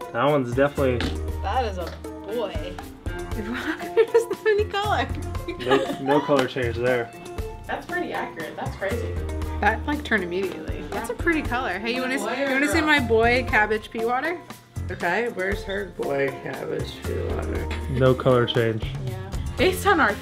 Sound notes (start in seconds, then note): 3.3 laughs; 5.4 both girls laughing